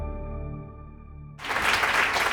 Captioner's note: applause